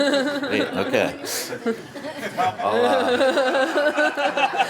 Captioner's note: laughter